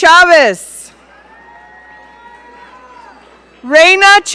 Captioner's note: audience cheering